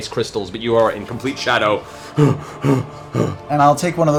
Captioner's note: breathing heavily